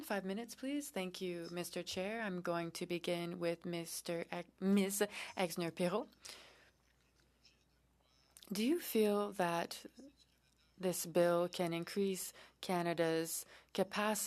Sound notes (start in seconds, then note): 2.8 speaking French